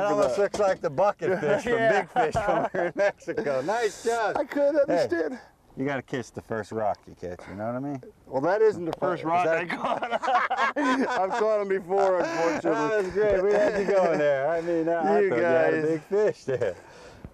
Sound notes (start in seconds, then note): 9.5 laughter